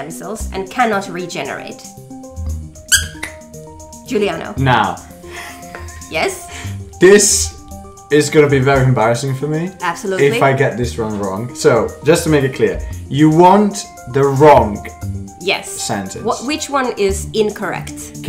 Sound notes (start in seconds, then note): 2.9 squeak!